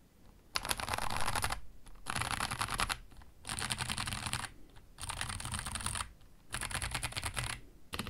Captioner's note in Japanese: タイプ音